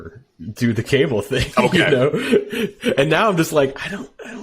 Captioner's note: laughing